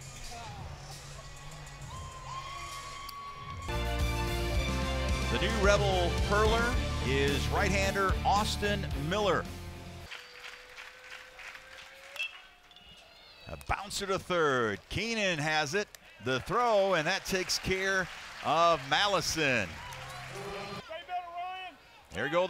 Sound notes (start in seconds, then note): 10.0 crowd clapping; 12.3 ball hitting bat